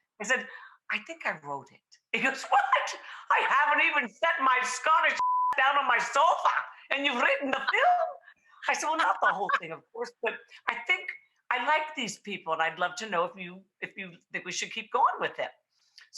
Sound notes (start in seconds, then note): 5.1 beep